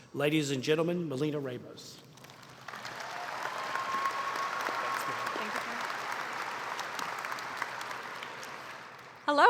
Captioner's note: applause